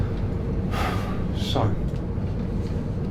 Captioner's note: sighs